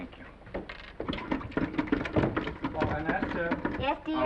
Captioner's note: handle rattling